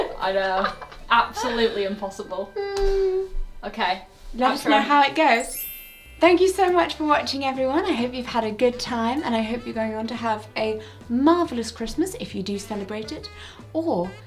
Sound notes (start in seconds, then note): 0.0 laughs; 5.3 wind chime dinging